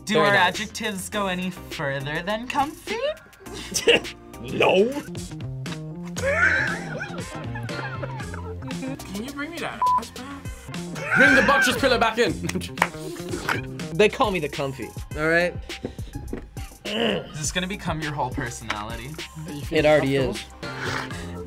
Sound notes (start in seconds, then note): 6.2 laughs